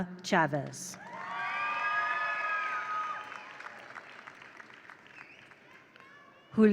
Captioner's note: attendees cheer; attendees applaud